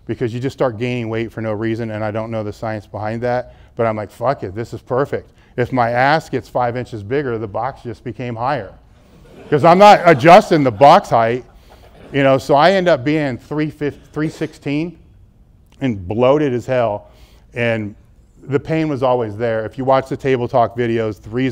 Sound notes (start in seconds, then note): 9.1 audience laughs